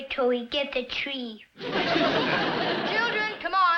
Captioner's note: audience laughs